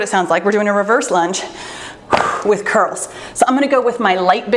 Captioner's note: exhales deeply